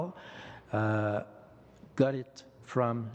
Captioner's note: speaking French